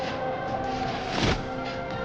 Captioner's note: woosh; thud